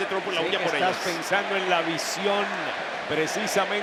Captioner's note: none